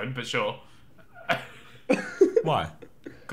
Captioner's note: laughs